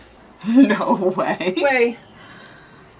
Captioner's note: laughs